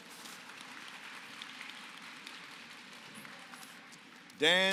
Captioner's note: applause